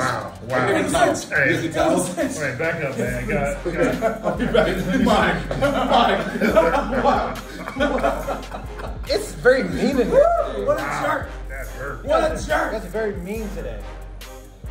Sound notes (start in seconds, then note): 2.8 laugh